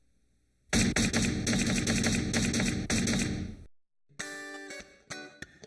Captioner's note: keyboard clatters; upbeat music